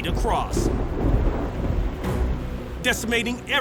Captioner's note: thunder rumbles